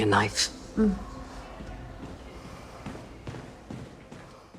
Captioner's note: sighs approvingly